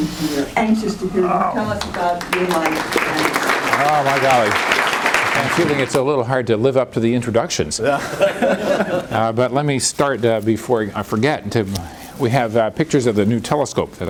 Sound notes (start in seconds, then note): 2.1 applause; 7.8 laughter